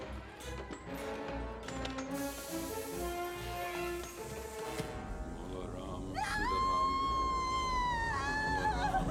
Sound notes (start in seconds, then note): 5.1 chanting in hindi; 6.1 screaming